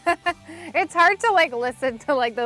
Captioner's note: laughs